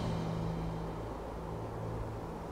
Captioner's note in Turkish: Rüzgâr sesi